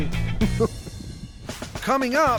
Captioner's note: chuckling